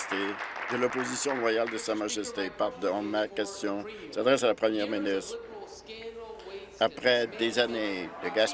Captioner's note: applause